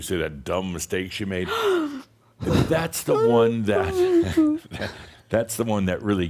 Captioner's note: Adamus chuckles; she continues to fake cry